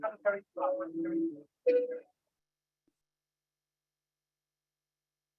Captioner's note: background radio noise